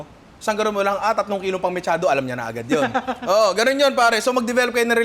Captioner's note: laughs